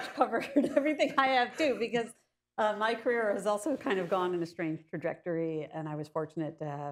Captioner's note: laughs